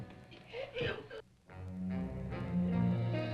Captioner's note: Mark gasping; dramatic music